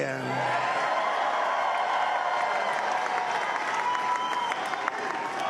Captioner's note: applause